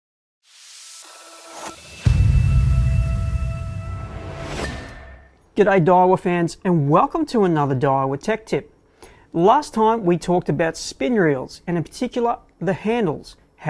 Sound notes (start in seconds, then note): 0.5 hissing steam; 1.8 rolling boom; 4.5 metal clanking